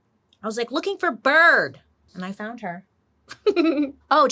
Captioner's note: laughs